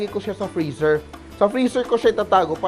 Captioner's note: sizzle